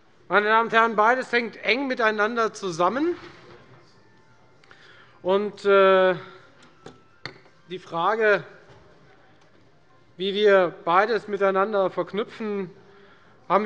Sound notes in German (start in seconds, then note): none